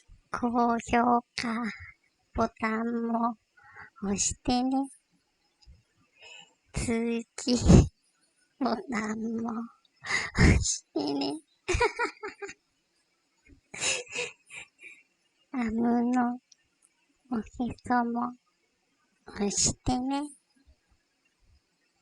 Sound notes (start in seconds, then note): 11.7 laugh